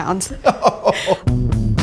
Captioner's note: laughs; bright music